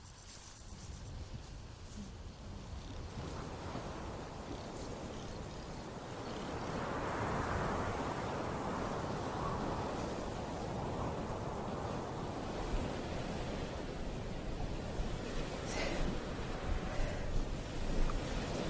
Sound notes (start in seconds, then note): 3.8 ocean rumbles; 8.2 wind blows